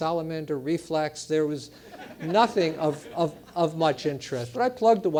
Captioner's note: laugh